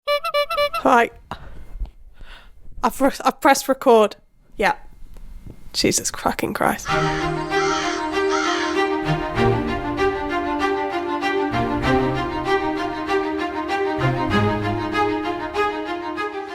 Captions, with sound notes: (horn honking) - Right. I've pressed record. Yeah, Jesus fucking Christ. (upbeat music) (crows cawing) (upbeat music)